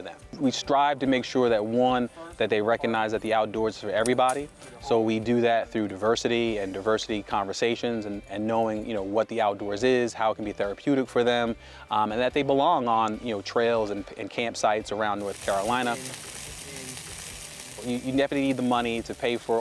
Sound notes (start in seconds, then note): 15.1 meat sizzling